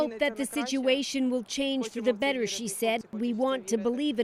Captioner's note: speaking alternate language